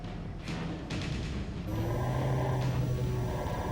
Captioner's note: computerized humming